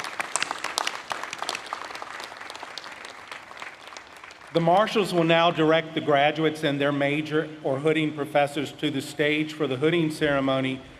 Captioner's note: applause